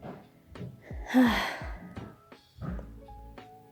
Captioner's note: more distant footsteps; heavy sigh; literally even more footsteps